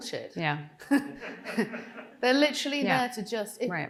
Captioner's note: Jenny laughing; audience member chuckling